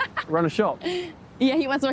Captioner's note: laughing